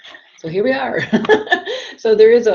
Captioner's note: laughs